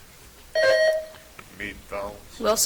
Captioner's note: buzzer chimes